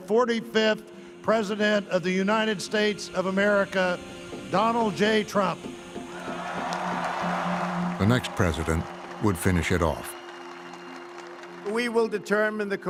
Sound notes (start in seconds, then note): 6.1 crowd cheers and applauds